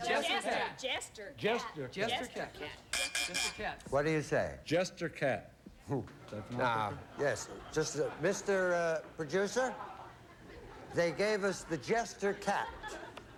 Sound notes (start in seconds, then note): 2.2 buzz buzz buzz